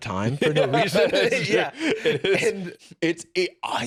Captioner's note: laughing